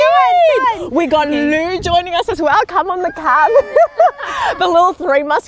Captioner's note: laughs